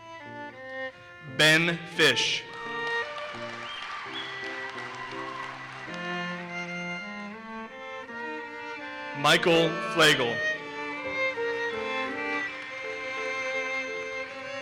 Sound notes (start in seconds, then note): 2.4 audience cheers and applauses; 11.8 audience applauses